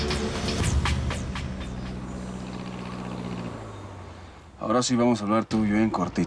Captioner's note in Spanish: sonido de motores